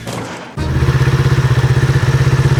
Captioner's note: tires screeching; metal banging; engine running